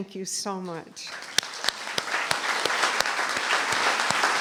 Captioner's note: applause